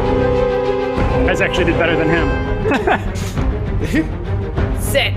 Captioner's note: chuckles